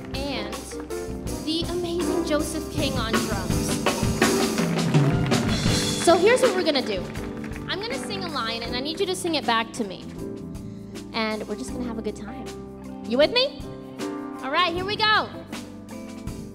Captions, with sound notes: and the amazing Joseph King on drums. (audience cheers and applauds) So here's what we're gonna do. I'm gonna sing a line, and I need you to sing it back to me, and we're just gonna have a good time. You with me? All right, here we go!